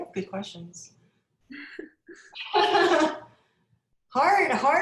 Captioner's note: both laugh